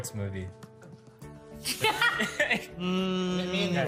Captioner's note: laughing